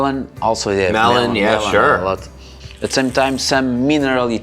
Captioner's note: overlapping chattering